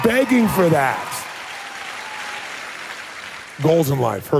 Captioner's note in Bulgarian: силни аплодисменти